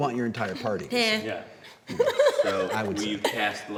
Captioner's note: laughs